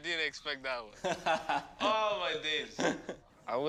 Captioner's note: laughing